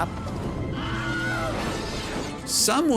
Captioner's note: Wilhelm Scream